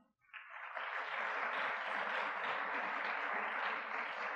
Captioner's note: audience clapping